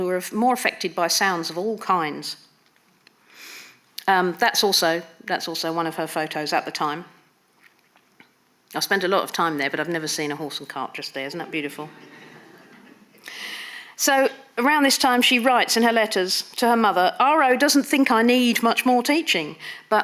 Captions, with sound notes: who are more affected by sounds of all kinds. That's also one of her photos at the time. I've spent a lot of time there, but I've never seen a horse and cart just there. Isn't that beautiful? (audience laughing) So around this time she writes in her letters to her mother, R.O doesn't think I need much more teaching,